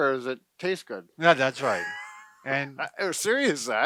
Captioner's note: laughs